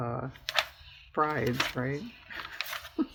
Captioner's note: laughs